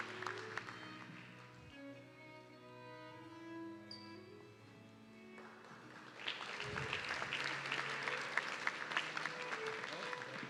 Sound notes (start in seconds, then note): 5.3 audience clapping